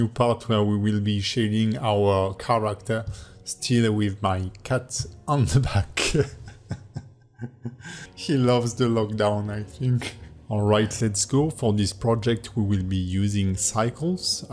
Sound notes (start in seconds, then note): 6.0 laughs